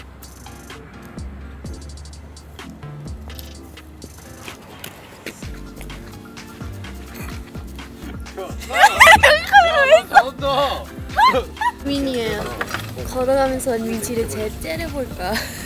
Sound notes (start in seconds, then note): 8.6 cracking up at the camera